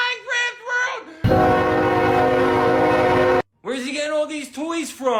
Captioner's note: norfolk southern es44dc horn